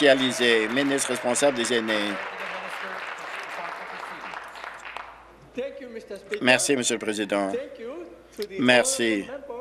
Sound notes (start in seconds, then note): 2.2 applause